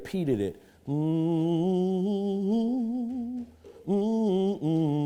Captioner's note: humming